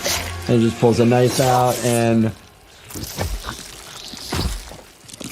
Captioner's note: squishing sounds